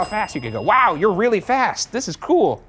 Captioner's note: bell dings